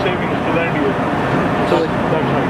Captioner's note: fan whirring